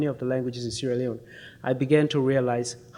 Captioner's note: none